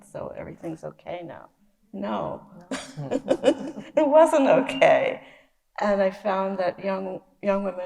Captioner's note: laughs